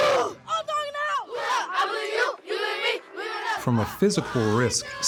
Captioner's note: chanting